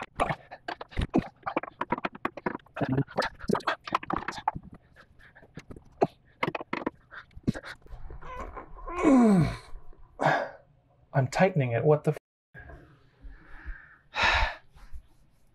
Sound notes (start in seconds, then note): 8.9 grunt; 14.2 sigh